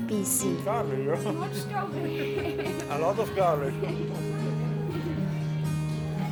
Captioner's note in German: Lachen